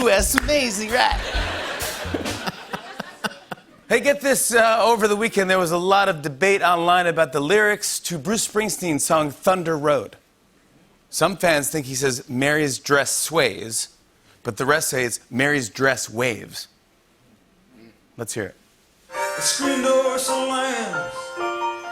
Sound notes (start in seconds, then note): 1.1 laughter; 3.5 normal voice